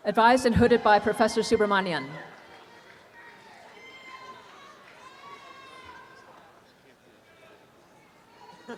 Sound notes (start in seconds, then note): 2.2 students cheer and applaud